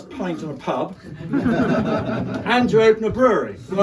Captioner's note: crowd laughs